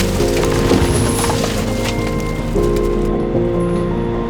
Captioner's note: car thuds